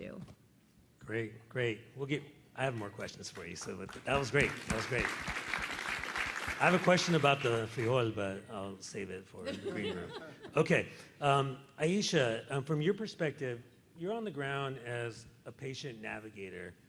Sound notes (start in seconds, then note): 5.5 applause; 9.4 laughter